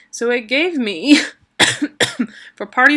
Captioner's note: coughing